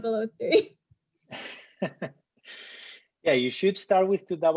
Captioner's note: laughter